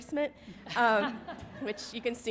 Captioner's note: audience laughing